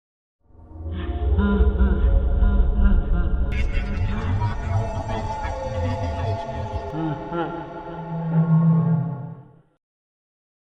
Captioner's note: Creepy ambiance, Freddy laughing, garbled speech